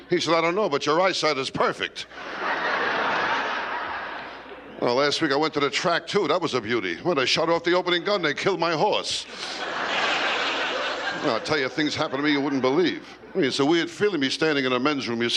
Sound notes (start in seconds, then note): 2.1 laughter; 9.3 laughter